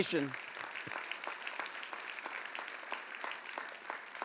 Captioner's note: audience applauds